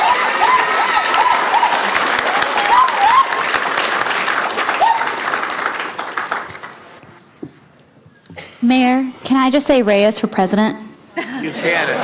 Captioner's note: applause